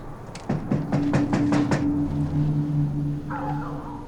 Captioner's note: knocking